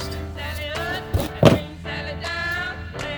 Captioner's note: bump